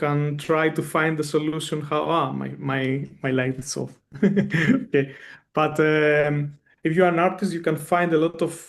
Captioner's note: chuckles